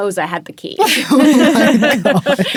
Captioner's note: people laughing